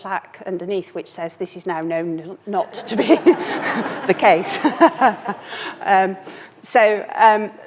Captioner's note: chuckling